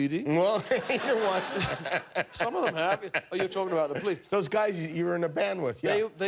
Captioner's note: laughter